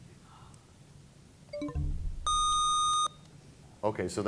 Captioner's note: bell chimes, time expires; buzzer sound